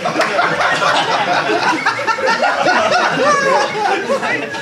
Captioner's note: Sidemen applaud; audience applauds